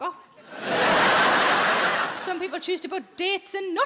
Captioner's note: audience laughs